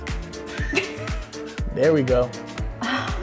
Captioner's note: both laughing